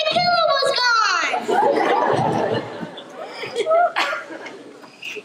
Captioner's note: laughter